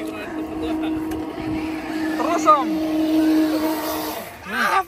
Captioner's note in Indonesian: Suara mobil menggerung